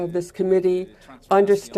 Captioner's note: speaking French